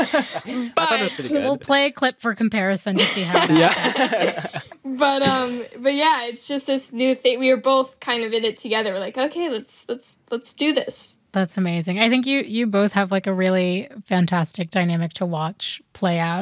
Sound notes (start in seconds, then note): 3.0 all chuckle